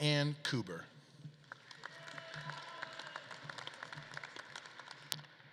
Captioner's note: audience claps and cheers